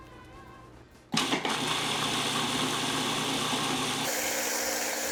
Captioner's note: whirring